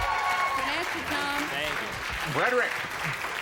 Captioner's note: cheers